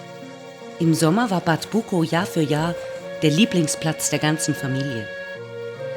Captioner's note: German speaking continues